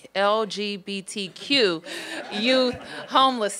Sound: laughter

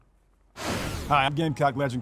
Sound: whooshing

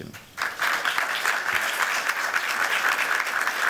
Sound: applause

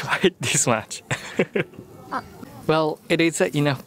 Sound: chuckles

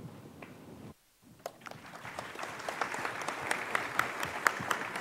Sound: audience applauding

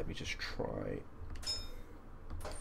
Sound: bell Dings

